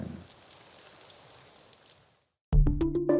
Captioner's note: rain pattering